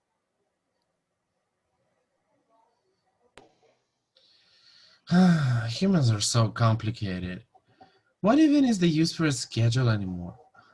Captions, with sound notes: *HE sighs* Ugh, humans are so complicated. What even is the use for a schedule anymore?